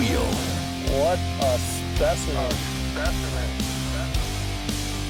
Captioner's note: voiceover